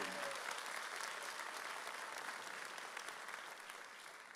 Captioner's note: audience cheers